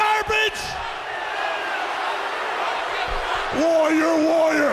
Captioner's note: crowd chatter